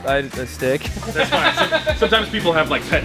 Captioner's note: laughter